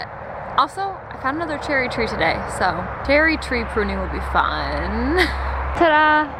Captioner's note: laughs